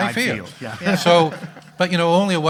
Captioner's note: audience laughing